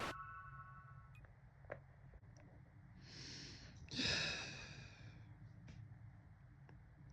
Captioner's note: sighs